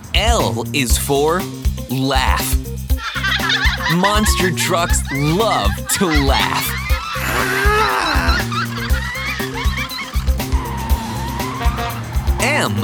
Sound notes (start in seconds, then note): 3.1 laughing; 7.1 grumbling; 10.7 screeching